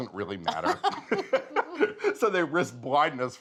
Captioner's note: both laughing